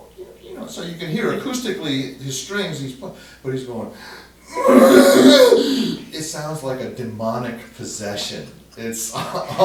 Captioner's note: moans